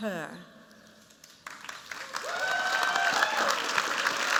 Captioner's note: applause